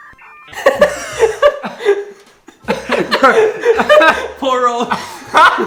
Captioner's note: laughs